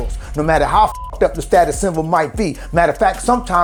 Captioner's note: beep